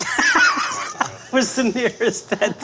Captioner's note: laughing